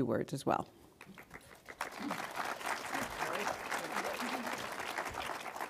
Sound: audience applauds

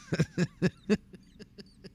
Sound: laughing

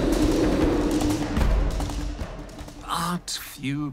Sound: thud!

